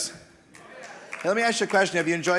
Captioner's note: audience applauding